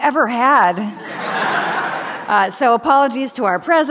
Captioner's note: audience laughs